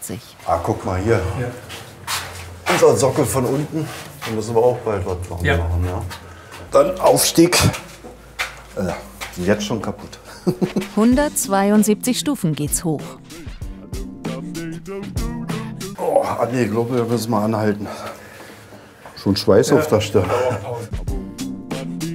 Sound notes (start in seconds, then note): 9.7 laughs